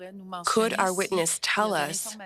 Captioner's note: speaking French